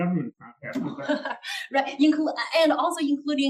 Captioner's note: laugh